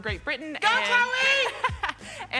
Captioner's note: laughs